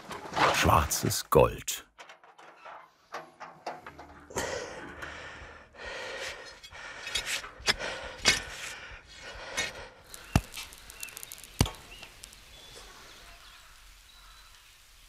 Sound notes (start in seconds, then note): 4.3 he's breathing heavily; 6.9 shovels clink and rattle; 9.7 quiet fire crackling; 13.4 birds chirping